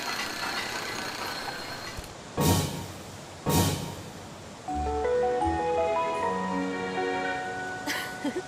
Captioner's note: incessant clanging noises signifying ongoing work